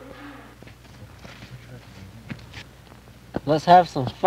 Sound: snow and ice crunching

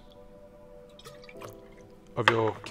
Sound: liquid pouring

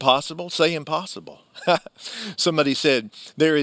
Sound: chuckles

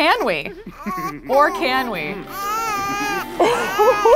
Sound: laughs

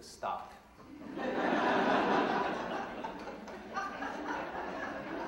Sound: audience laughing

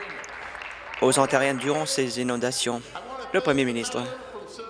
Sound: applause

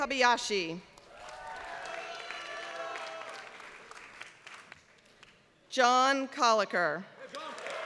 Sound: applause; applause

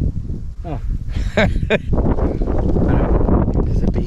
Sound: laughing

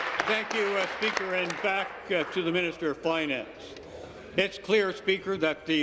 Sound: applause

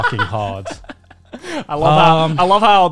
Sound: laughing

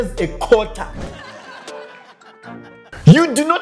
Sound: audience laughing

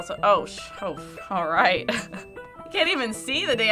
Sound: chuckles

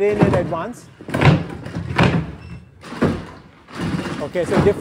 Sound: feet clatter

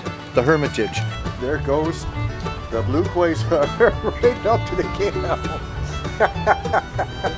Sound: laughing

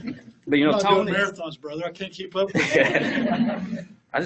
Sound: laughs; laughs

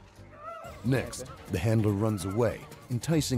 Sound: voiceover

